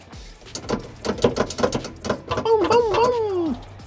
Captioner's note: shifter clicking